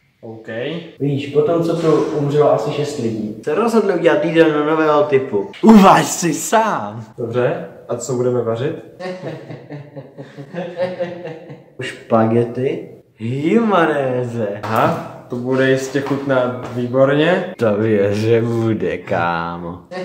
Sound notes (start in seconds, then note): 9.0 evil laughter